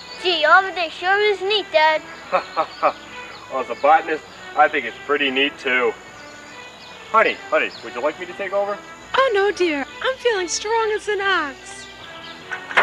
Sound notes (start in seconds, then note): 2.2 dad Laughs